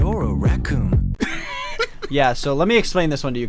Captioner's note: laughs